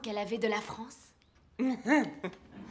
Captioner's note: laughs